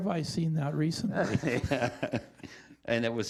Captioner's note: chuckling